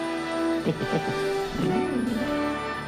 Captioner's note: chuckling